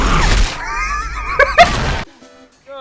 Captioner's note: wheezing laughter